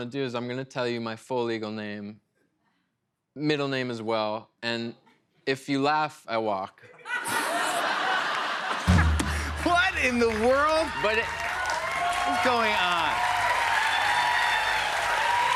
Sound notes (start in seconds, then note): 6.8 laughter; 11.4 cheers and applause